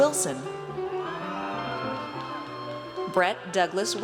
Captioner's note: audience cheers